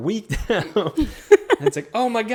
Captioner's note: laughs